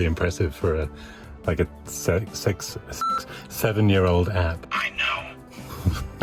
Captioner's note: beep